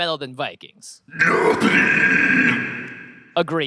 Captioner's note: screaming